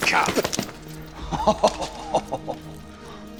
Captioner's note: chuckles